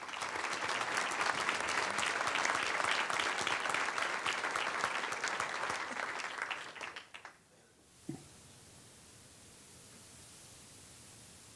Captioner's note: applause